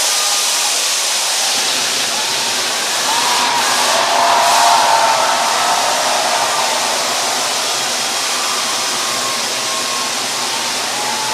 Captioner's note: cheering and applause